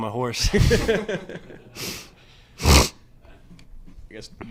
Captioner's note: all laughing